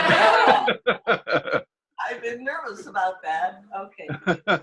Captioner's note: laughter